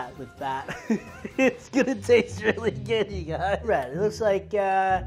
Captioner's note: laughs